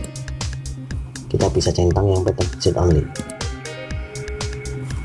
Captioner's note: click